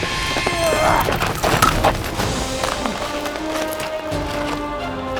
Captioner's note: grunts